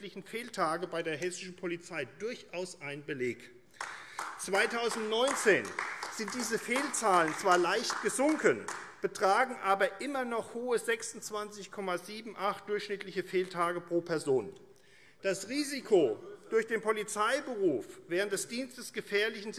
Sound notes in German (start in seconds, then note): 3.7 Beifall AfD